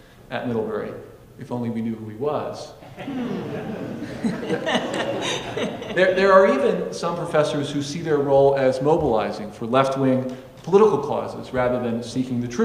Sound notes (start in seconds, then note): 2.8 audience laughing